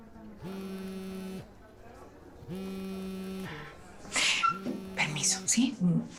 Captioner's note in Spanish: Vibra el celular